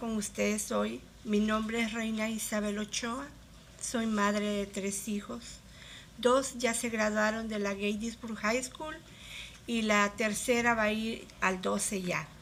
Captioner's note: speaking spanish